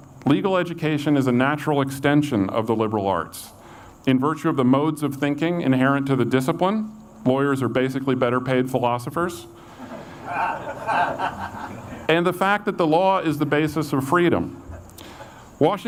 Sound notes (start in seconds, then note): 9.7 audience laughs